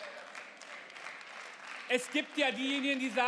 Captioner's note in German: Beifall